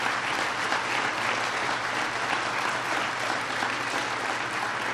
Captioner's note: applause